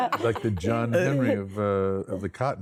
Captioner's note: laughter